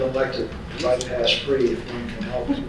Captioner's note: laughter